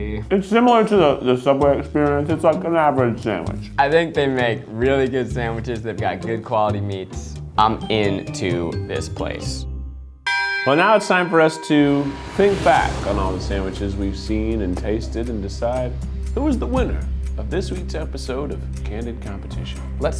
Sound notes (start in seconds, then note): 10.2 bell dings